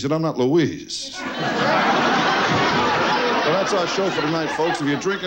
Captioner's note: audience loudly laughs